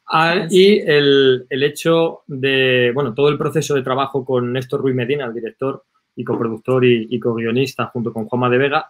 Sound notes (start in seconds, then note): 0.6 speaking in foreign language